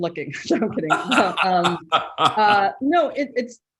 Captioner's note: laughing